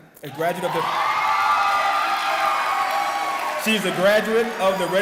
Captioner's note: cheering